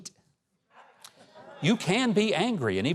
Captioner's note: audience murmurs